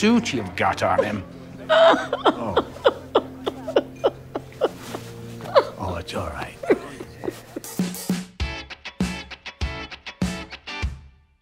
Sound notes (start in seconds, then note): 3.4 widow cries